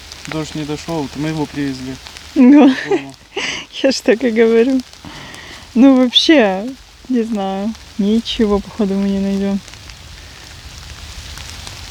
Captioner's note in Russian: смех